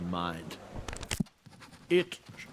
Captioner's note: page Turn